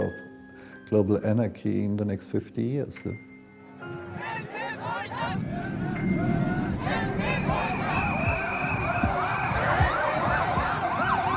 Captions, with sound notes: of global anarchy in the next 50 years. (soft music) (muffled protesting) (sirens blaring)